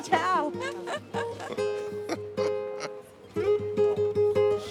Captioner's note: laughing